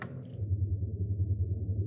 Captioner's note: drone